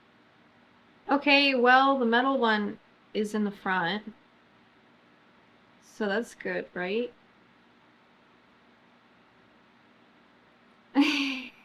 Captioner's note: laughs